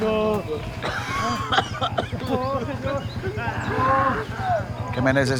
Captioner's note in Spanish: Quejidos